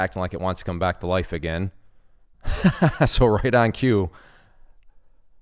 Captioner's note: laughs